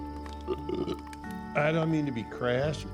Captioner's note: Sam belches